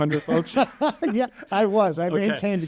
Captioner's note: both laughing